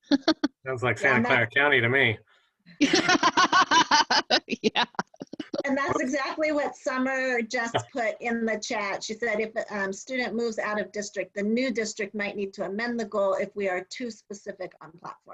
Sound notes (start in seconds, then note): 0.0 laughter; 2.8 laughter